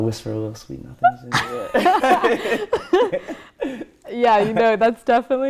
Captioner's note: both laugh